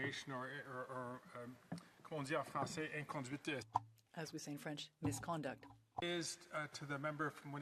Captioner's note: speaking French